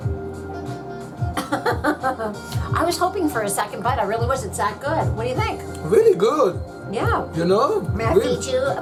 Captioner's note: laughs